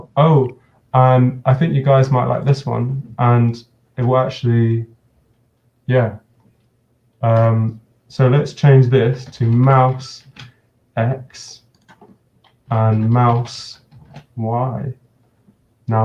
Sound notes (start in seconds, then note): none